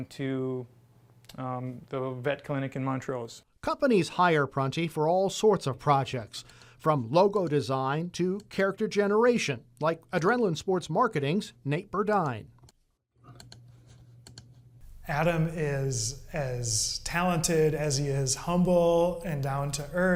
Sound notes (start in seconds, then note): 14.2 mouse clicking